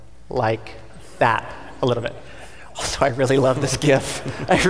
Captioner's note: audience laughing